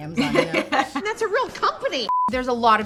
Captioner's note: beeping